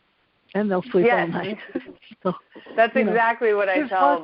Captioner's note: laughs